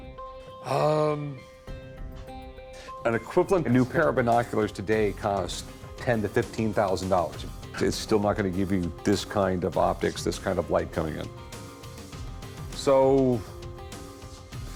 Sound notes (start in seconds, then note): none